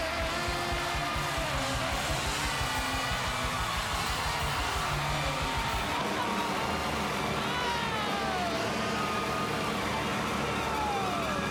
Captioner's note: cheers and applause